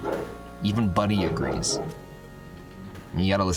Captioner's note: bork